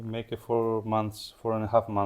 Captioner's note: none